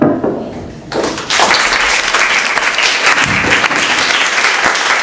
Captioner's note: audience clapping